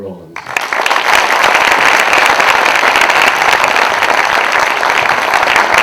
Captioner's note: applause